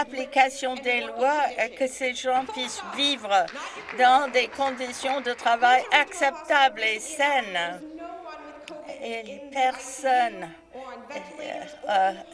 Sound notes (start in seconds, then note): 7.6 some Applause